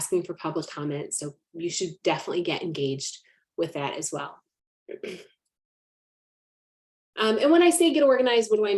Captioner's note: clears throat